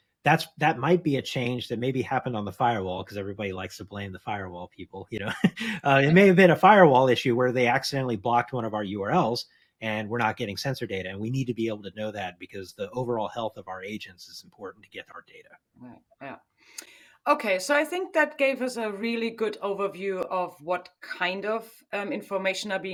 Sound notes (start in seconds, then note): 5.2 laughs